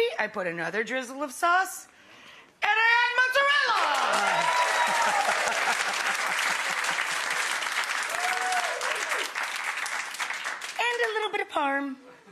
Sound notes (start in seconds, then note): 3.6 audience clapping and cheering; 4.8 laughing